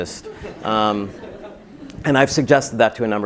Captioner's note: laugh